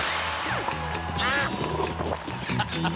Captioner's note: quack; laughter